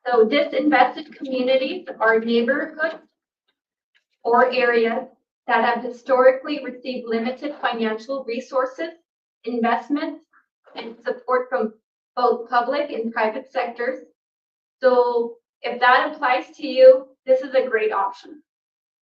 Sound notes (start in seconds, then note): none